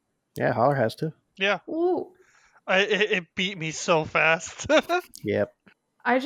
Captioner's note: laughs